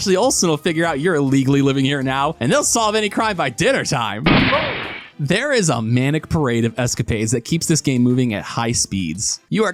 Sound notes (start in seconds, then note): 4.2 gunshot